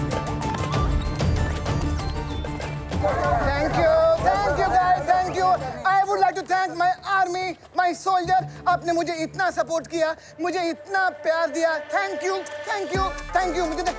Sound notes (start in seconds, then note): 0.6 bird chirping